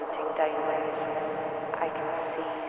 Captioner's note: intense echo